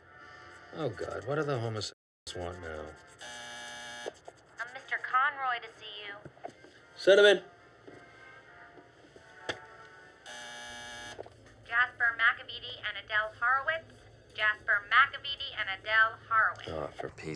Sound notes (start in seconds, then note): 3.2 intercom buzzes; 10.2 intercom buzzes